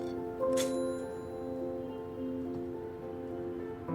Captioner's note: toaster dings